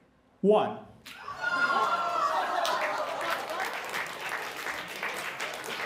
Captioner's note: applause